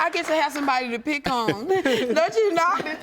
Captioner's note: laughs